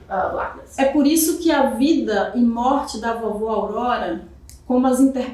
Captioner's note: speaking portuguese